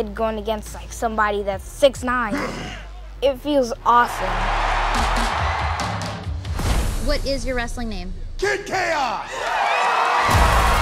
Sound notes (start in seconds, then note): 4.0 crowd roars; 9.1 crowd roars